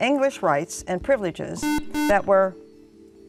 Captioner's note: buzzer